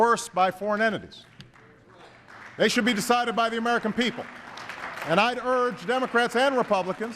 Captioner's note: applause